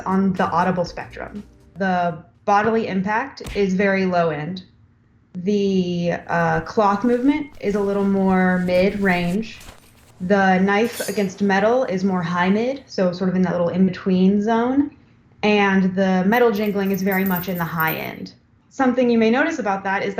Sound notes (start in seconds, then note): 3.4 punch; 6.2 rustling; 11.2 metal scraping; 16.3 jingling